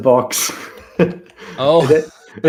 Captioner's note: laughter